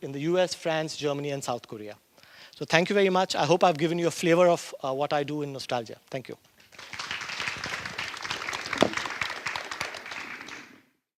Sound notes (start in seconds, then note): 6.6 applause